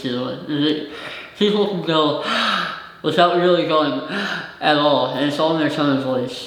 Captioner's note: gasps